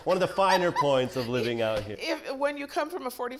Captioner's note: laughs